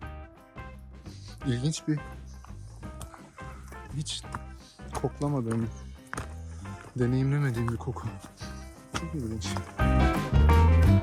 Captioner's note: smelling sound